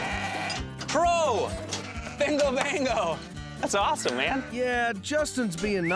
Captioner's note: high-five clap